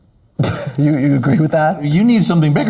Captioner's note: Priyanka laughs